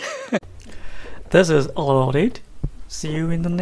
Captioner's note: laughing